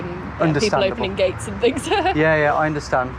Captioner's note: laughing